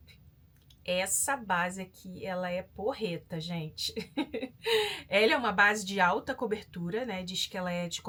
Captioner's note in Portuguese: risadas